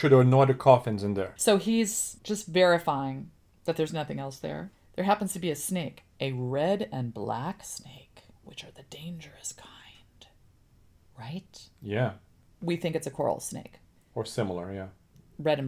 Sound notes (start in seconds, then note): 10.8 whispers